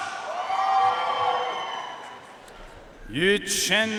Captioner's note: audience cheering and applauding